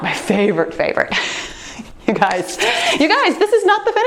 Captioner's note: laughs